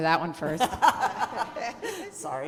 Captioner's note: laughter